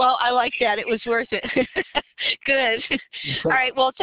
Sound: laughter

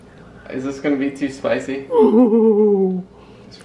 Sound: giggles

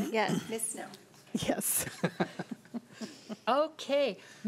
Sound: laughing

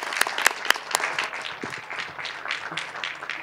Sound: cheers and applause

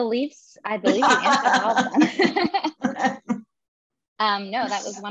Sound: laughs

